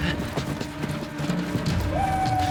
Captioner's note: panting